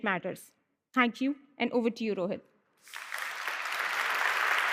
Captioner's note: applause